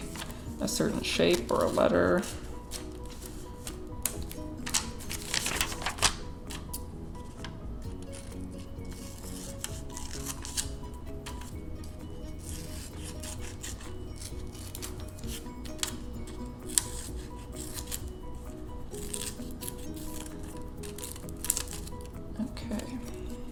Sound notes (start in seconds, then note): 4.5 rustling paper; 8.8 cutting paper